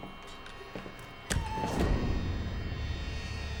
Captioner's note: creaking